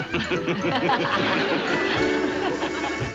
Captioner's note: laughing